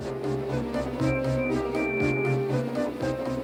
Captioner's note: toot toot toot